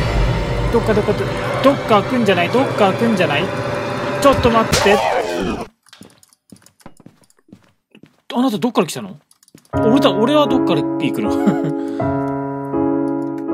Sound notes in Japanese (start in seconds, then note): 4.9 効果音